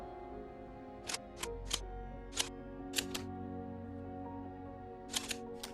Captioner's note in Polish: odgłos przeładowywanej broni